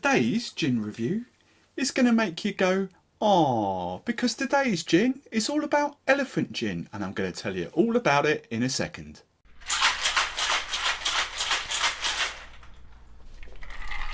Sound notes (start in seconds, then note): 9.6 shaking noise